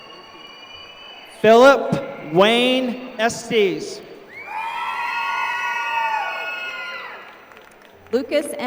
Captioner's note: applause